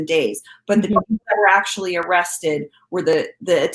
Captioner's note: audio distorting